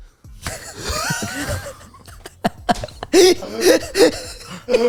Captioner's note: all laughing